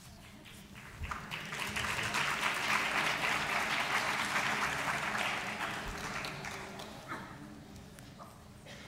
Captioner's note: audience applause